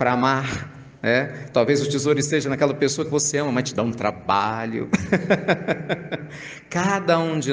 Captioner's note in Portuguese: risadas